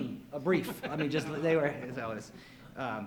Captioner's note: laughs